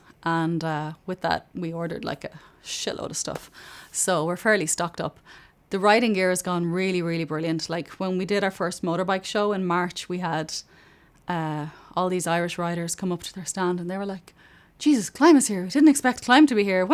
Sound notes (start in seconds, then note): none